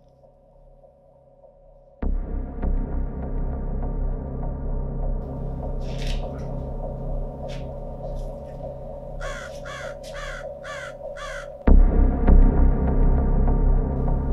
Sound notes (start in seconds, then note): 9.5 sound of raven cawing